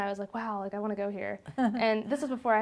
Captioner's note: laughs